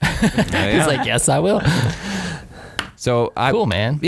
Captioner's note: laughing